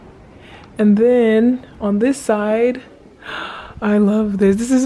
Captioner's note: gasps